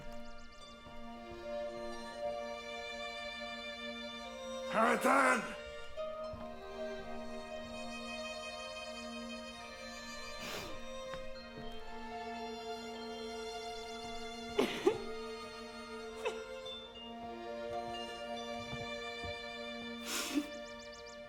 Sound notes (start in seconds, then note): 0.1 birds singing; 6.3 soft music; 14.8 Nelly crying